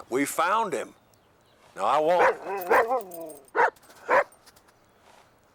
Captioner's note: Buck barking